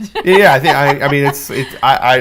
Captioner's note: laughs